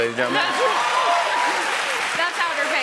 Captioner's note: cheers and applause